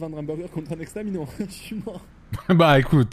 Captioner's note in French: il rit